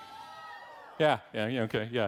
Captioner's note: audience yelling